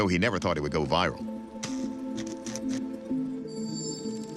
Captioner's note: zapping